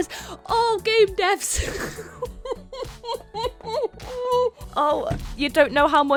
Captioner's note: gasps; laughing